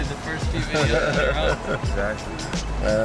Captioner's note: laughs